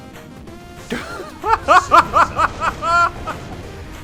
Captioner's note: laughs in noob